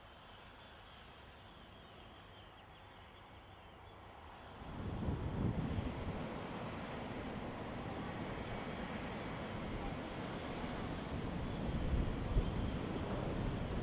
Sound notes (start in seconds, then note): 5.5 water flowing